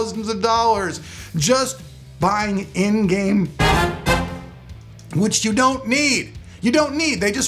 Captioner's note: horn toots